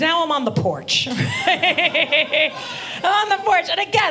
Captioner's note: audience laughing